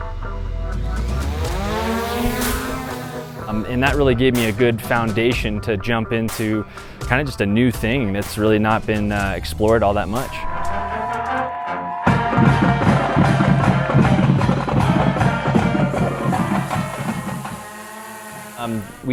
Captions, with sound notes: (upbeat music) (drone taking flight) And that really gave me a good foundation to jump into, kind of just a new thing that's really not been explored all that much. (upbeat music) (drone propeller starts)